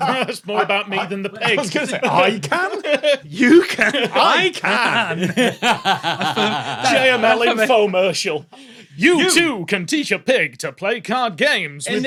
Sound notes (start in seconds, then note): 5.4 guffaws